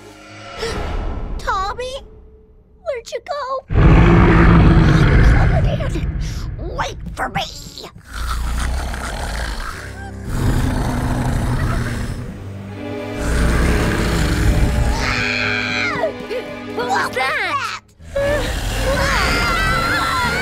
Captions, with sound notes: [gasps] Tommy? Where'd you go? Wait for me! [snoring] [screaming] What was that? [screaming]